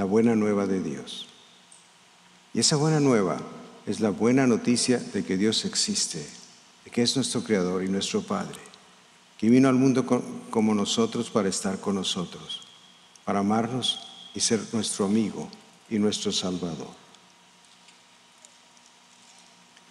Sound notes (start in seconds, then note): 2.2 speaking in spanish